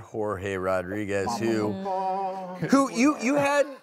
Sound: vocalizing

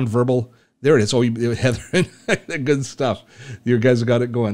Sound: laughing

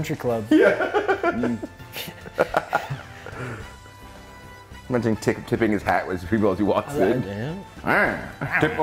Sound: laugh

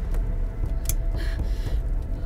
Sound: torch switch click

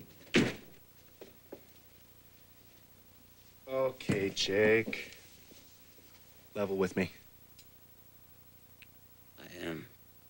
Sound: door closes

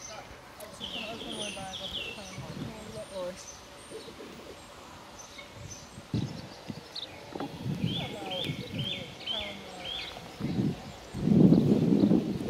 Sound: distant chatting

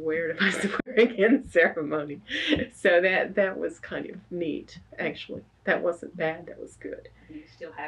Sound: laughs

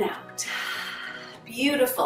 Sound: exhales

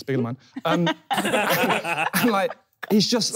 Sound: laughing

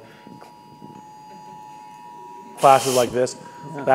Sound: high pitched noise

